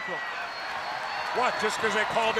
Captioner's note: crowd cheering